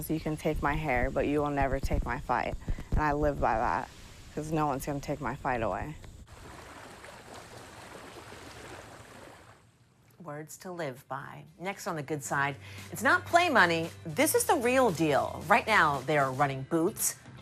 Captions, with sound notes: You can take my hair. But you will never take my fight, and I live by that 'cause no one's gonna take my fight away. (water lapping) - Words to live by. Next on "The Good Side," it's not play money. This is the real deal. Right now they are running booths.